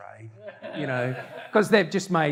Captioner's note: audience laughter